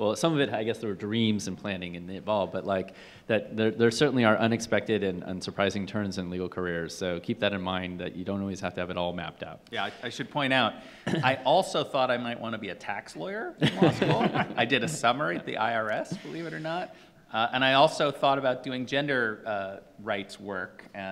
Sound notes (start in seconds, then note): 13.6 laughing